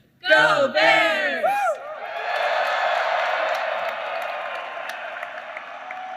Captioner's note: applause